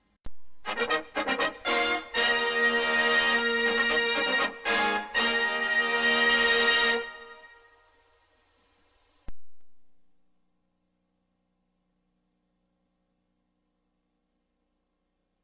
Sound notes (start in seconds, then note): 0.6 retro fanfare playing; 10.0 silence